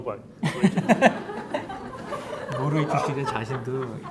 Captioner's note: audience laughing; speaking in Korean